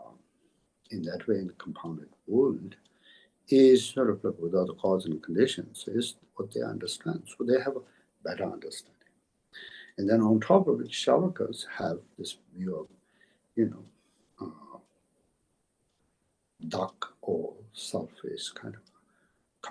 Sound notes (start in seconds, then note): 16.6 tibetan